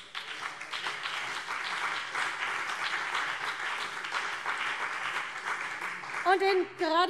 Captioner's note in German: Beifall CDU und BÜNDNIS 90/DIE GRÜNEN